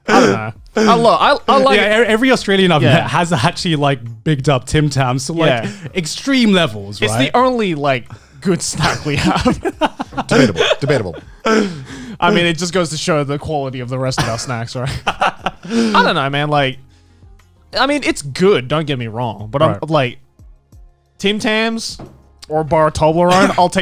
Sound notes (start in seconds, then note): 8.6 men laugh; 14.8 laughs